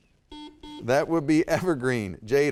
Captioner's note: buzzer dings